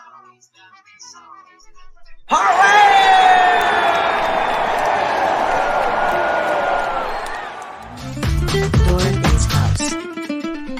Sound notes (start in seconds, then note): 2.3 all cheering